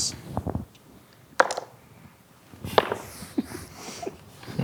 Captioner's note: dice rolling; players chuckling